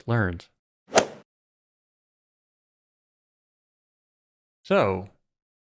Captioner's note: golf ball hit sound